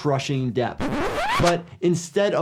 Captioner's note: video warbles